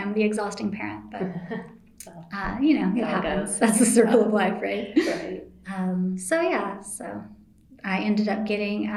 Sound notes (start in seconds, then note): 4.9 laughter